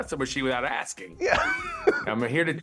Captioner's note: laughs